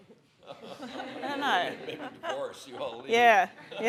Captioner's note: audience laughs